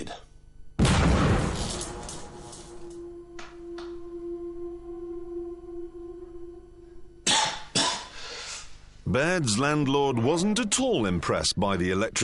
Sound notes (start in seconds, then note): 0.8 explosion; 2.1 coughs